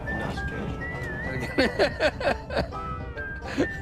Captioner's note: laughs